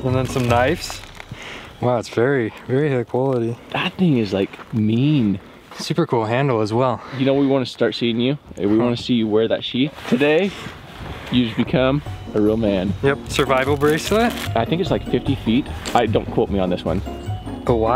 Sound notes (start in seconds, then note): 10.6 beep